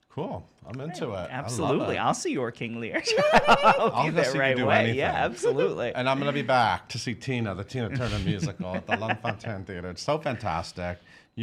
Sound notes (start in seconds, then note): 3.0 laughs